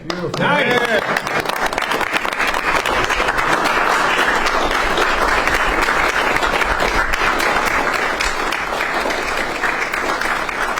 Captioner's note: applause